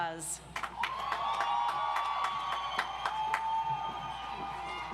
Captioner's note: audience applauds